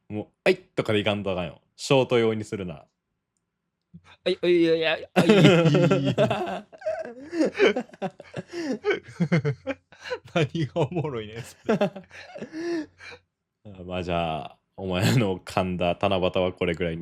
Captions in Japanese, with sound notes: もうあいとかで行かんとあかんよ。ショート用にするなら。 あいあいがおもろいね、それ。[笑い] [笑い] あ、ま、じゃあお前の噛んだ棚端はこれぐらいにしといてでいいですか?もう未練はないですか?